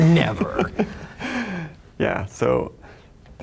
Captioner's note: laughing